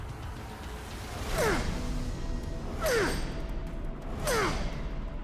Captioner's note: grunting